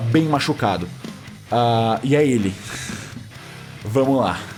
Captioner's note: chuckles